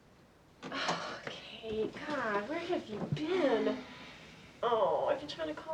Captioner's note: sighs